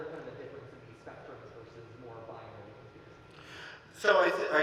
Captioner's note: speaking softly; speaking softly